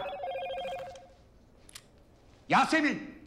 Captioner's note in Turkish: Telefon zili sesi